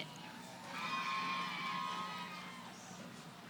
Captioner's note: cheering